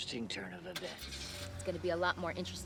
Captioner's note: car engine revs